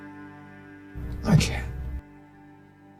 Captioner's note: voiceover